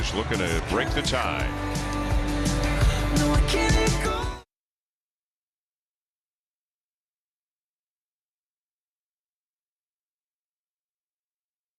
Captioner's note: cheering and Applause